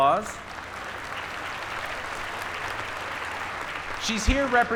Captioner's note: applause